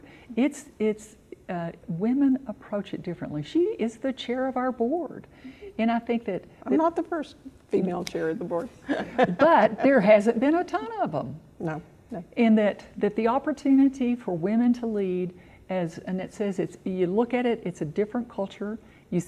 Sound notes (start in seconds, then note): 8.8 person laughing